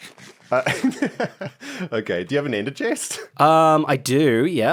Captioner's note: laughs